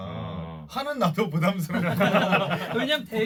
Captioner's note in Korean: 빵터짐